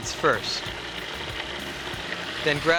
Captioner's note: food processor grinding